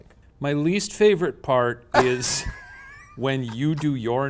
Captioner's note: laughing